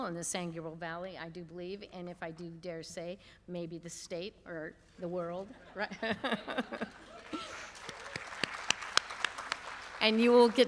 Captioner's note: laughter; applause